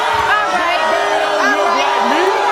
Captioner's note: audience booing